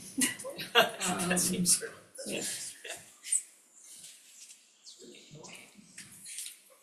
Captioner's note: laughs